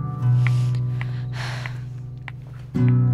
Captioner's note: Falguni sighing